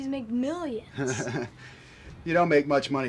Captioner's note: laughs